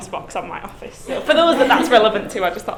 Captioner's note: class laughing